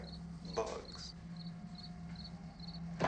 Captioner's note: crickets chirping